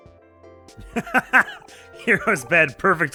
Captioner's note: guffaws